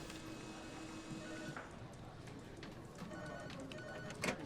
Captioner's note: phone rings